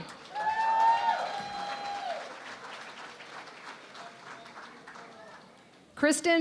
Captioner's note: cheering and Applause